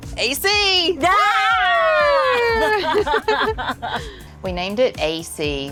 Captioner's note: cheering